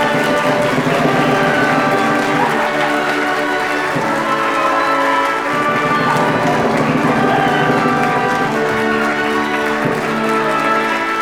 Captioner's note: applause